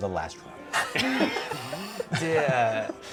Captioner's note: laughter